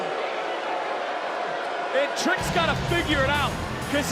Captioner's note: crowd boos